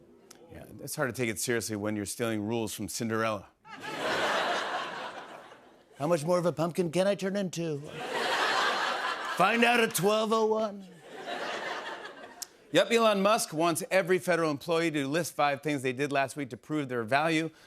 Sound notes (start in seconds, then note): 3.6 laughter; 5.6 As Trump; 12.2 normal voice